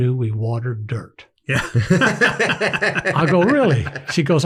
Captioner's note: everyone laughs